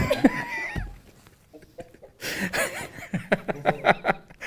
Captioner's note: laughter